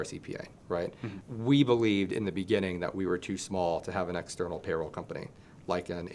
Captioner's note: laughing